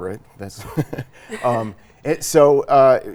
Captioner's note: laughs